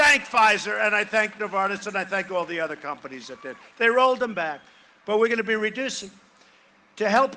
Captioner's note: cheering and applause